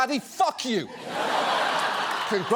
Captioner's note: studio audience laughs